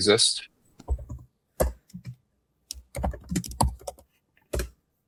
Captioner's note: typing